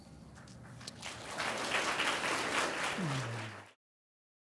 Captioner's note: audience applauds